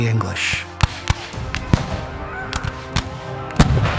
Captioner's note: gunshots firing